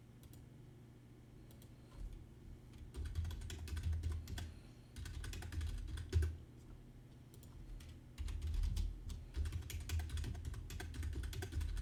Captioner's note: typing